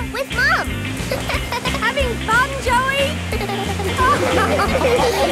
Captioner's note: giggles; laughing